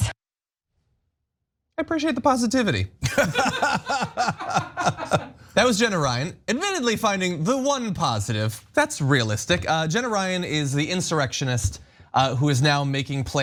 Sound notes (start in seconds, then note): 3.0 laugh